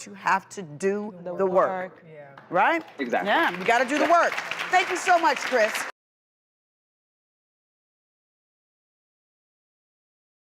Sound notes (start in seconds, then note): 2.6 applause